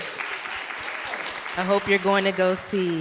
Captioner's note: audience clapping